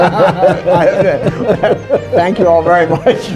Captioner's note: laughter